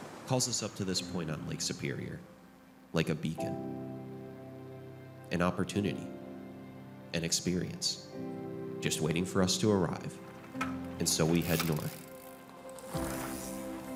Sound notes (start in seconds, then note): none